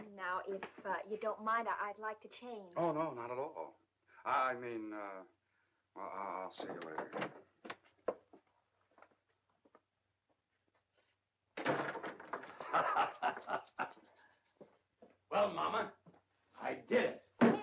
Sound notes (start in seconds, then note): 6.5 door opens; 11.6 door closes; 12.5 laughing